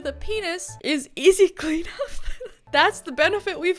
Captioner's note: laughs